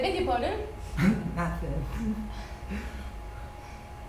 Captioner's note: giggles